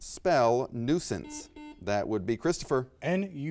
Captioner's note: buzzer beeps